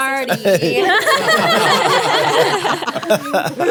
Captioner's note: laughing